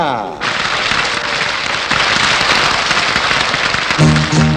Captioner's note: applause